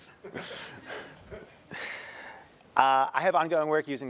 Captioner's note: laugh